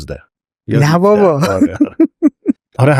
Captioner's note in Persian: خنده